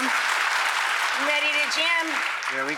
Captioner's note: applause